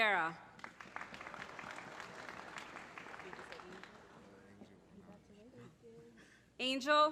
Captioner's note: applause